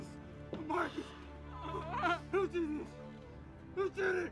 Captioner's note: Mabel sobs